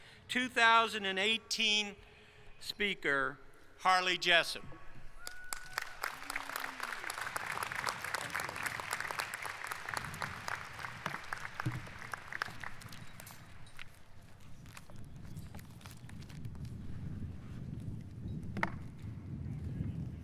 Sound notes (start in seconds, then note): 11.3 applause